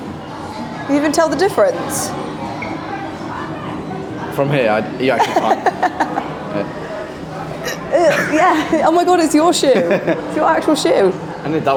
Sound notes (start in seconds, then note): 5.1 laughing; 9.7 chuckling